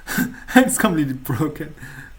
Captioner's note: chuckles